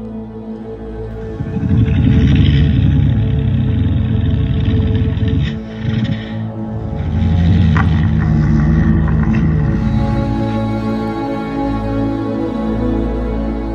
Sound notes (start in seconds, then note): 1.2 suchomimus growling